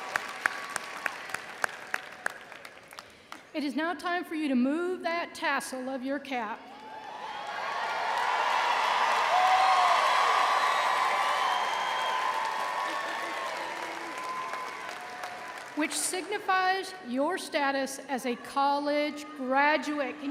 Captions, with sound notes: It is now time for you to move that tassel of your cap, (audience cheering) which signifies your status as a college graduate.